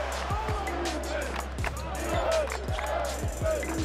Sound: crowd chants

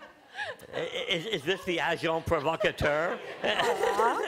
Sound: laughter

